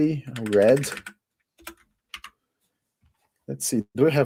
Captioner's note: typing